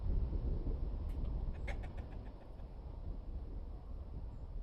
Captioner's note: chicken clucks